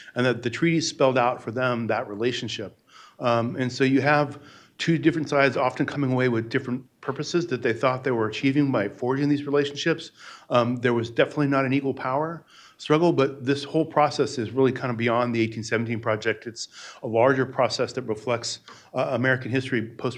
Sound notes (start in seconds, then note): none